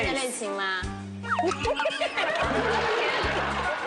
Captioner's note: cant help but laugh